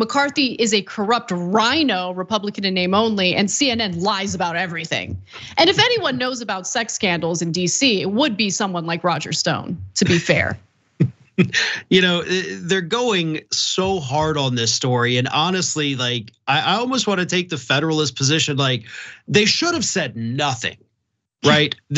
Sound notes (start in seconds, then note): 11.4 laugh